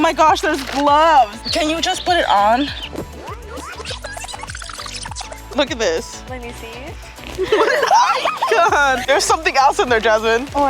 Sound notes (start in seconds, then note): 3.7 tape whirl fast-forward; 7.3 laughs